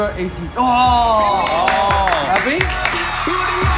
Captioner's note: boys exclaim